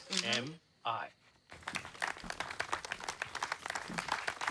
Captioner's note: clapping